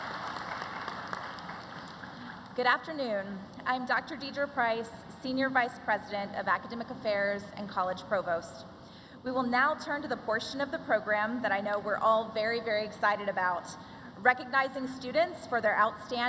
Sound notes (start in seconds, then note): 1.9 applause